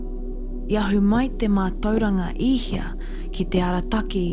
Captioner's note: foreign language